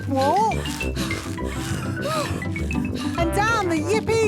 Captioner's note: puffing and panting